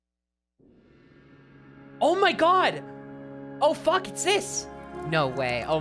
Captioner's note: wind howling, otherworldly music